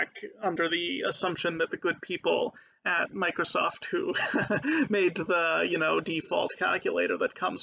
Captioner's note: laughing